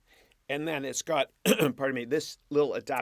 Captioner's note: clears throat